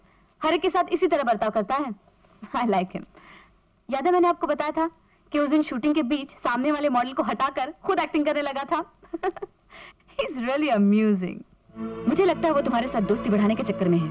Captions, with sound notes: He's such with everyone. I like him. Remember, I had told you that day while shooting.. ..he pushed the model and started acting. (Chuckles) He's really amusing. I think he's trying to be your friend.